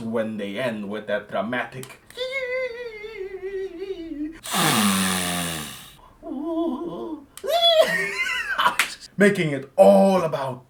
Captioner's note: totally gentle inhale